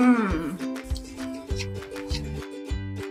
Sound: crunch

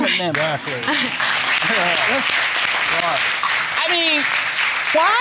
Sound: audience applauding

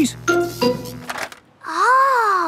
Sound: buzzing

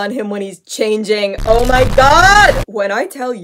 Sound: heavy distortion

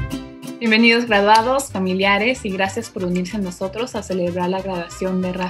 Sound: speaks in foreign language

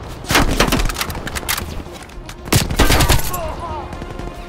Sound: gunshots

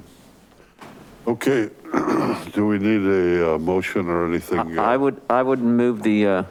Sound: clears throat

